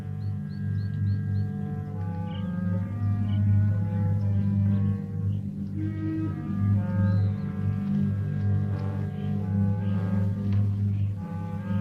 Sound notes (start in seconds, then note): 4.8 birds chirping